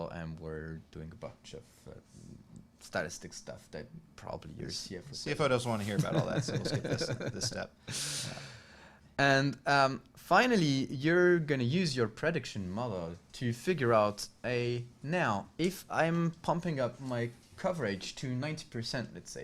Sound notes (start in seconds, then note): 6.0 laughing